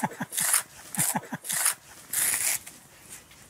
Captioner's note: rough scraping noises